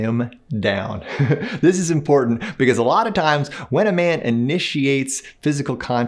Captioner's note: laughs